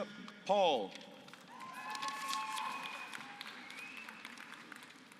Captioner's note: applause